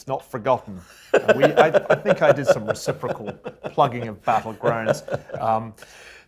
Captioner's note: laugh